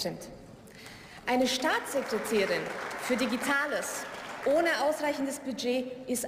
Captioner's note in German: Beifall